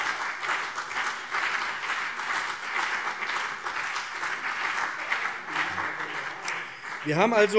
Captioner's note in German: Beifall BÜNDNIS 90/DIE GRÜNEN und CDU